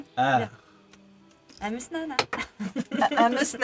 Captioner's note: Simlish